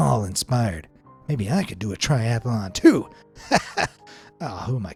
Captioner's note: laughing